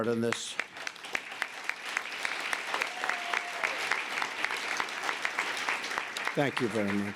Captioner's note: applause